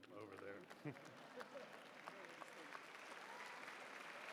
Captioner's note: applause